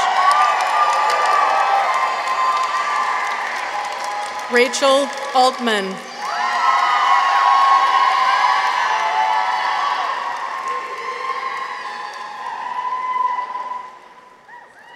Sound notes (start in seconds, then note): 0.0 audience applauds; 0.0 audience cheers; 6.1 audience applauds; 6.2 people cheer